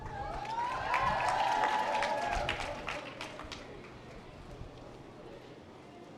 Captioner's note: members of the audience applaud